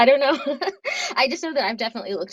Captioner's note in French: rires